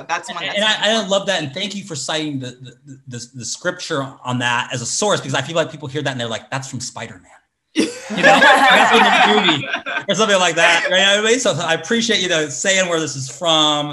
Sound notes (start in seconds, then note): 7.8 everyone laughs